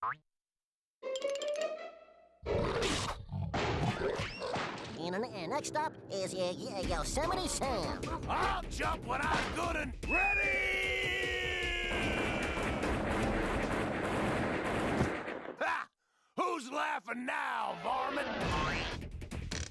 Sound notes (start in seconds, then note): 2.5 growling